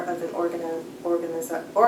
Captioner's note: none